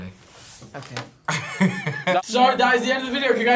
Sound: laughs

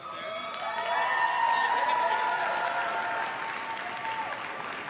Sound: crowd claps and cheers

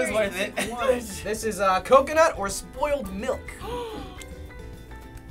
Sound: gasps

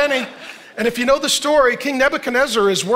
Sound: congregation laughing

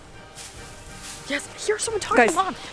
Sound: grass rustling

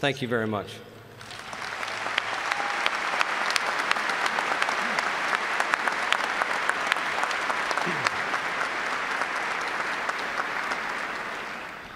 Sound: applause

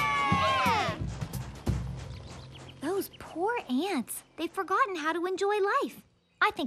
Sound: cheering

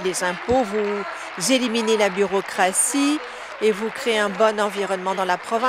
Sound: applause

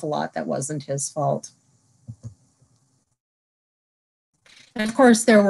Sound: silence

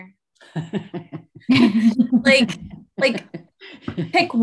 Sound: laugh

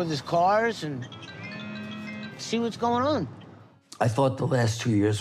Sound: phone ringing

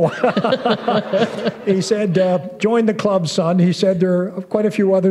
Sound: laughter

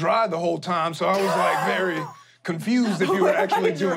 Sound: laughing

